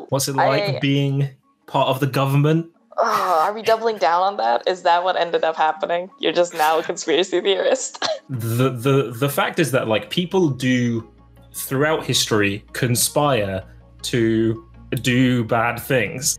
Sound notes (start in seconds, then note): 2.9 sighs